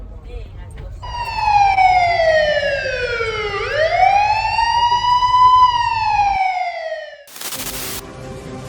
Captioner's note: siren